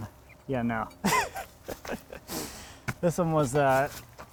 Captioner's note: laughs